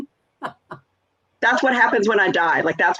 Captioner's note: laughs